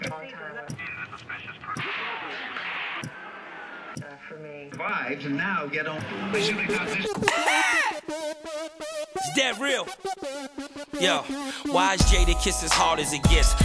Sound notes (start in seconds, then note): 0.0 TV remote clicking; 1.3 channel surfing continues; 6.4 upbeat hip hop music; 6.9 laughing